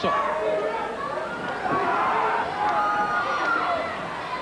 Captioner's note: crowd yelling